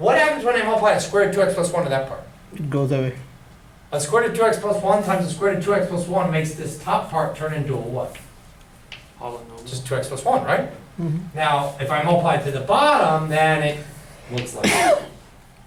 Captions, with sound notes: What happens when I multiply a square root of two x plus one to that part? - [Voiceover] It goes away. - A square root of two x plus one times a square root of two x plus one makes this top part turn into a what? - [Voiceover] Polynomial? - Just two x plus one, right? Now if I multiply to the bottom then it looks like this.